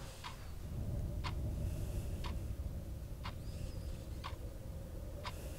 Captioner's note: Ellie breathes uneasily